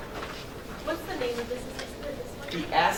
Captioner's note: woman's Voice